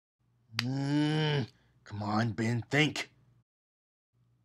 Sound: groans

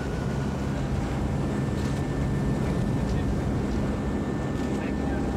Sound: helicopter whirring

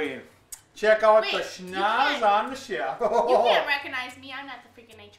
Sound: laughing

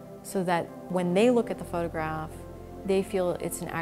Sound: none

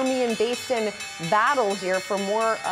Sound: bell

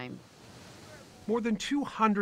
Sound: water crashing

